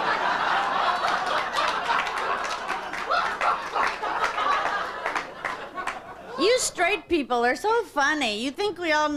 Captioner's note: audience laughter